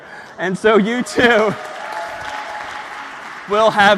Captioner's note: applause